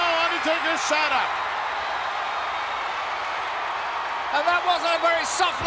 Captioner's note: applause